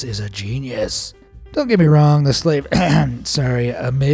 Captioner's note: ahem